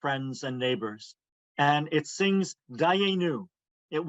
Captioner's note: foreign language